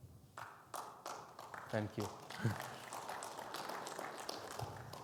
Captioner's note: audience clapping; laughs